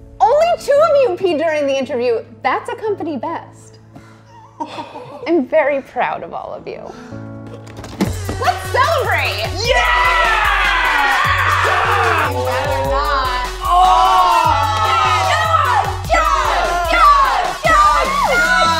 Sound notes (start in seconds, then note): 4.3 laughing; 4.4 sighs; 8.1 upbeat electric music; 14.7 cheering